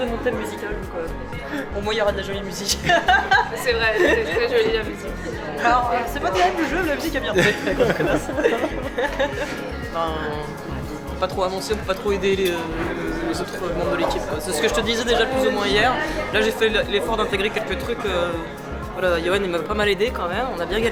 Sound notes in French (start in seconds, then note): 9.5 rires